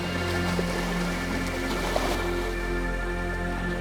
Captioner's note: water sloshing